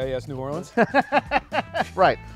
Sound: laughing

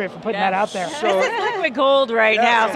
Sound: laughing happily

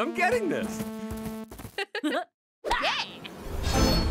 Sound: giggling

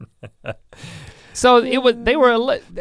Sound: laughs

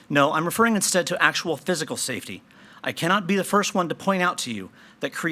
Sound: none

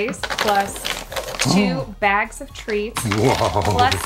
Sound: paper tearing

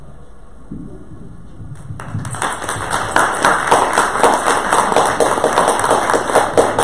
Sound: audience applause

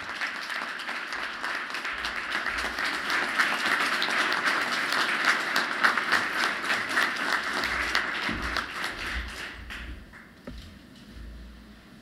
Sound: applause

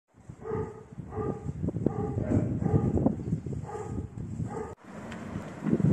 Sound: dog barking

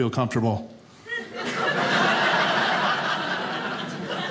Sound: audience laughing

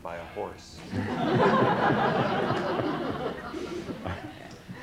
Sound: laughter

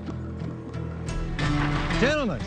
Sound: foot crunches

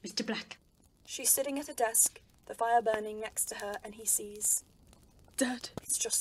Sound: fire crackling

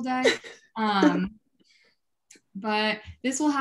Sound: chuckling

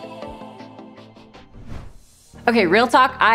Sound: air whooshing

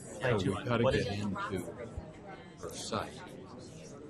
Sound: voiceover

